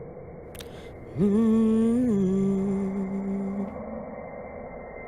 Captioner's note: humming continues